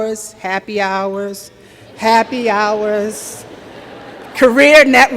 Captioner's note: laughter